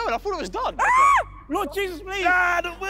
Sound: contestant screaming

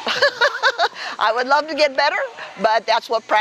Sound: laughte

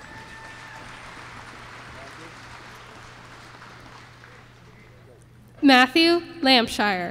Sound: applause

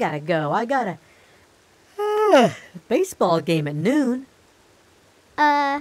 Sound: yawns; yawn

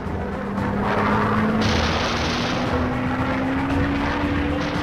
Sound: airplane engines roar

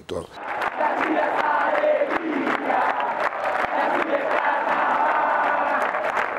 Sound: Táchira fans cheering

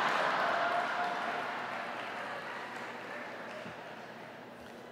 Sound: laughter

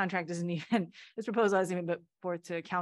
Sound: laughter

